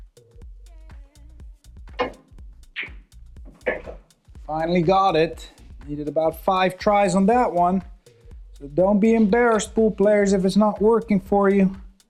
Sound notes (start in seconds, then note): 2.0 billiard balls clanging